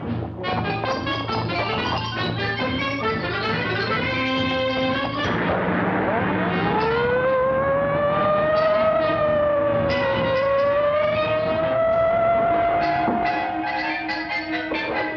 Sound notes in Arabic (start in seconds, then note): 5.0 محرك السيارة يدور; 6.0 صفارة الإنذار تدوي